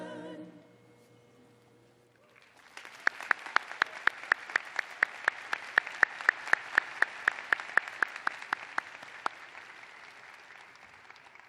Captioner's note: applause